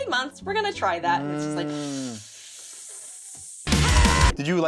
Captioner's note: hisses